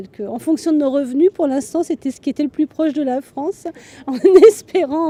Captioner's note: laughter